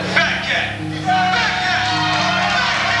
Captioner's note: crowd cheers